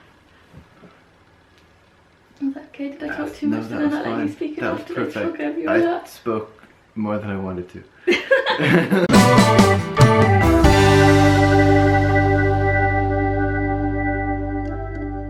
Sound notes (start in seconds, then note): 8.0 both laughing; 9.1 awesome end card music